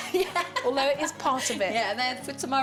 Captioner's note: laughs